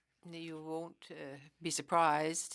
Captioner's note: speaking French